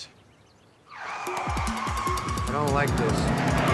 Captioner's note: tires screeching